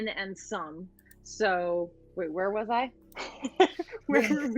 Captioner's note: laughs